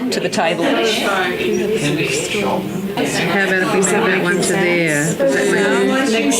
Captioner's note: participant chatter